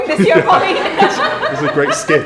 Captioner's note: everyone laughs